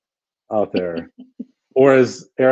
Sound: laughs

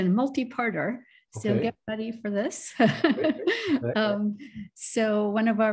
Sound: laughter

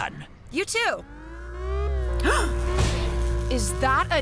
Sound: gasping

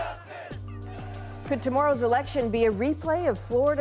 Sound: chanting

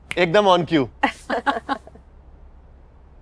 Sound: laughter

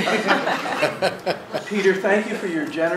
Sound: laughing

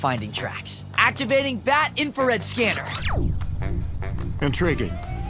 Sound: beeps

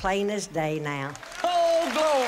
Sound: boisterous applause

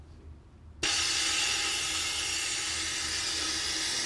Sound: air hissing

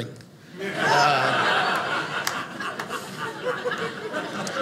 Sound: audience laughing

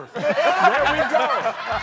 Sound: laughter

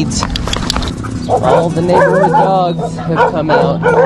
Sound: dogs barking

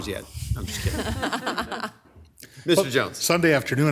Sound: attendees laughing

